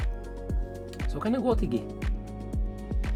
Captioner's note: talking Swedish